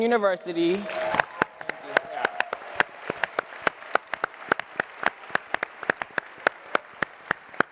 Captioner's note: applause